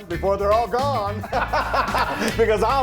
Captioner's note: both laughing